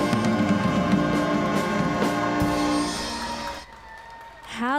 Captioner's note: applause